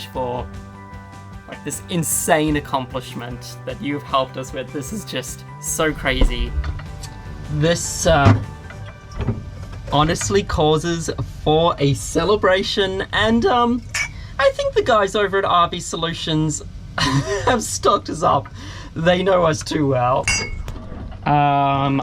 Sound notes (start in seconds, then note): 17.0 chuckles